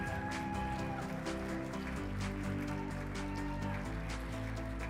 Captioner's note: audience applauding; upbeat music